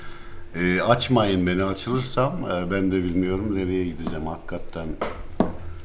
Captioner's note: talking